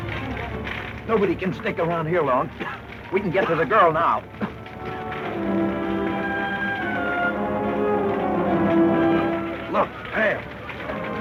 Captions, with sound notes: - Nobody can stick around here long. We can get to the girl now. (coughing) - Look, there.